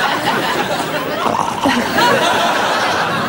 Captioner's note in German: Knurren vorgeben